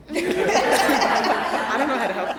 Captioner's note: all laughing